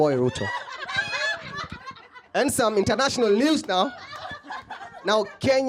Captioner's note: laughter